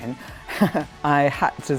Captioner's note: laughs